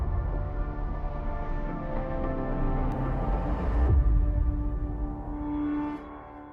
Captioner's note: echo